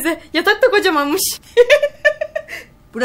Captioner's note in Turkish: gülme sesi̇